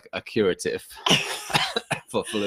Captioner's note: laughing